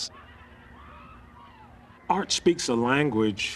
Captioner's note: people yelling